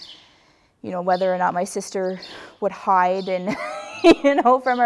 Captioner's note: laugh